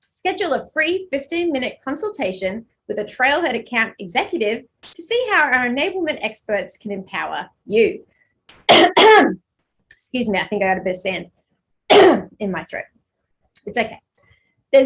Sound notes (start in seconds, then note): 8.6 coughing